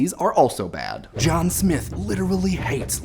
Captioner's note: deep voice